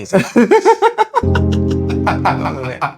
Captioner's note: laughs